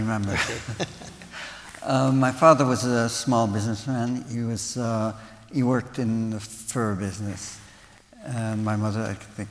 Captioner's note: laughter